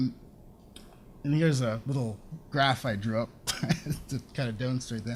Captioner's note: laughs